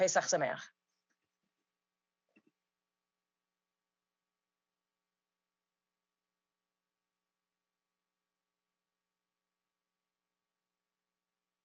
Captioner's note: speaking Hebrew